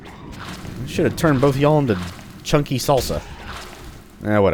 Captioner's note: whack